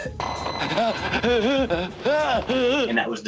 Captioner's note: man gasping